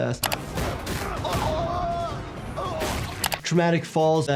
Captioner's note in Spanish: persona grita de agonía